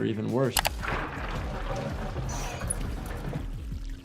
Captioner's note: water sloshes